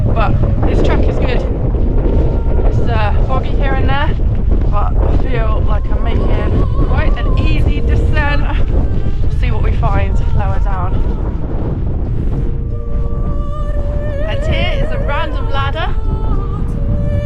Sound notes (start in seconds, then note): 11.8 wind